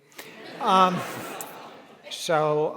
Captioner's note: audience laughing